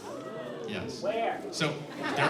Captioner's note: shouts